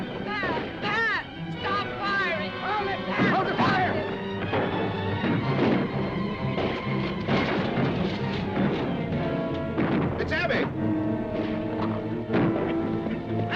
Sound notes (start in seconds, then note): 4.6 dramatic music; 6.0 guns firing; 7.2 dramatic music; 8.0 horse hooves clopping; 10.9 dramatic music